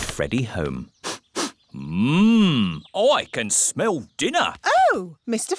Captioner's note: sniffs